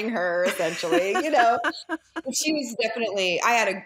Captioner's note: laughs